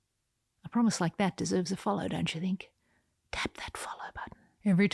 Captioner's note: whispers